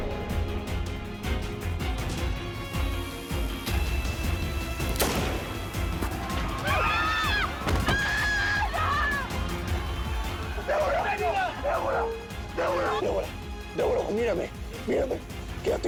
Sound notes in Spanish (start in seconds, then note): 4.9 Disparo; 6.4 Gritos